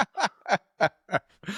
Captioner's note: laughing